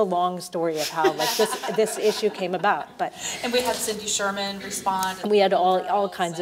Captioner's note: laugh